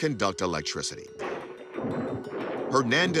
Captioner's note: lightning cracking